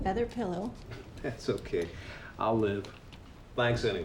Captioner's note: chuckles